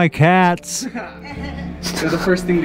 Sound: people chuckling

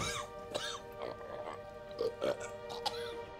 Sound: spluttering

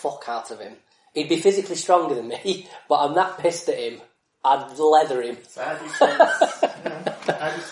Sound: laughs

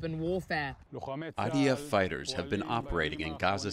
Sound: through translator

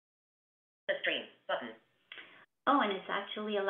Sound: VoiceOver voice

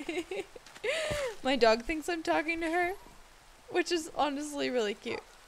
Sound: giggles

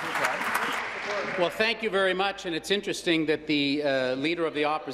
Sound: applause

